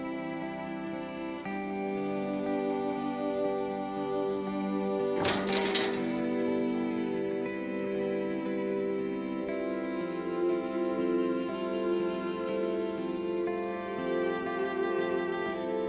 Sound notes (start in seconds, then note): 5.2 clanging